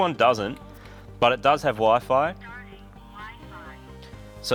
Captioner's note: digitized voice